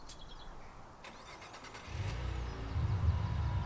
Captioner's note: engine starts; eerie music playing